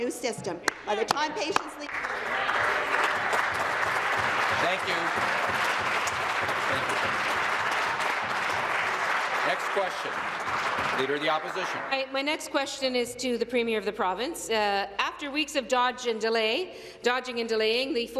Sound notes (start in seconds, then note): 5.1 applause